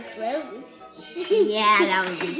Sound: giggles

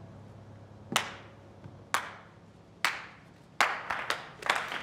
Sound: Eugene begins applauding; scattered applause

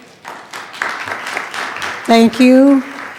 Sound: attendees clapping

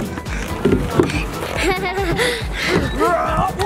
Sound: laughs

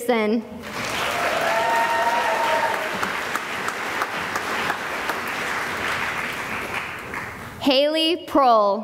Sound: cheering and applause

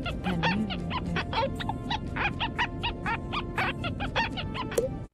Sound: ear squeaking; ear squeaking for a rather long time; pop

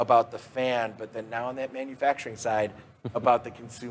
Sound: laughs

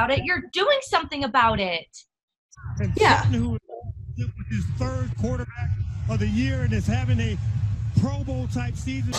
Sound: football game resumes in background

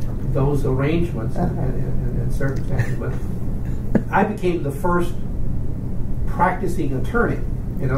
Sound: laughs

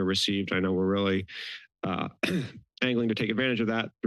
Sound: coughs

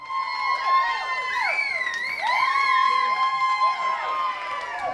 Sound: cheering

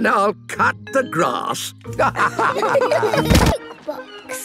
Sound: laughter

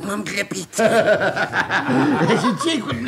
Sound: laughs

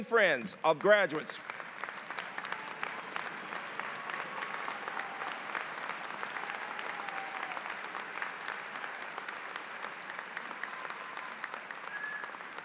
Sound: applause

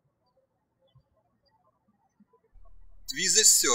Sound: birds chirping

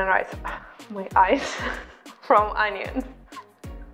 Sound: laughs

